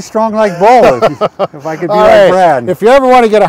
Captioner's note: laughs